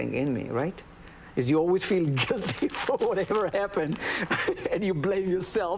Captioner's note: laughs